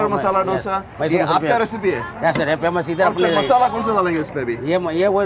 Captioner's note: both speaking in Hindi